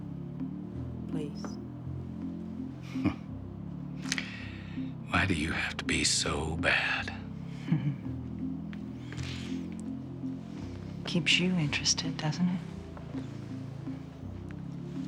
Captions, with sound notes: Please. (Nash chuckling) - Why do you have to be so bad? - Keeps you interested, doesn't it?